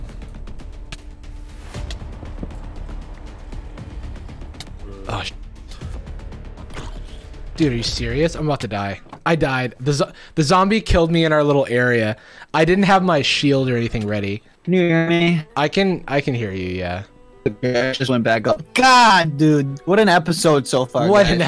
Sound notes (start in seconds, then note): 0.2 tense music; 17.7 choppy speech